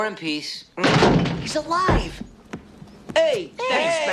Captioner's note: door crashing